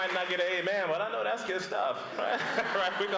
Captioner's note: applause; applause